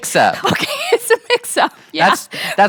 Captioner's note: laughing